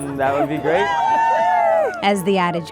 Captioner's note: people cheering